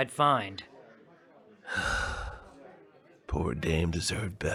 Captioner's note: world-weary sigh